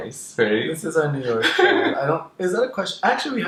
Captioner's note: laughs